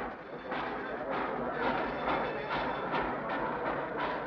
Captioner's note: train chugs